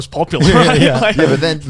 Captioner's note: Joey laughing